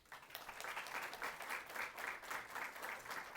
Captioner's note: applause